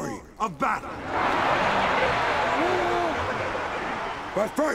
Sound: cheering

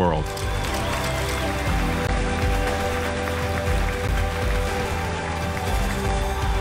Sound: upbeat music; loud clapping

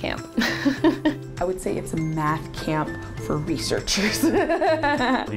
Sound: laughs; laughs

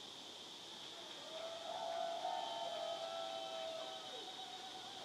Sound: audience cheers and applauds

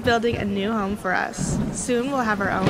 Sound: thunder

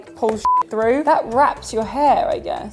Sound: beeps

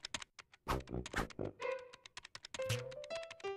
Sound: keyboard clacking

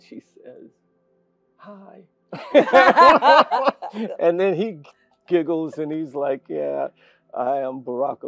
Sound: laugh

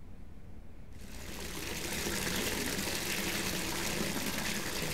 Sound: water splashing

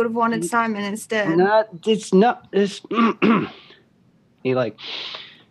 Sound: clears throat; breathes in

